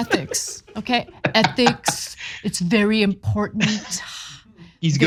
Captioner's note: laugh